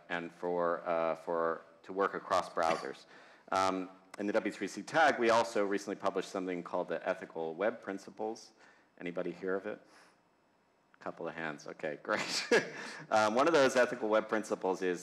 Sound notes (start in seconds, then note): 12.2 laughs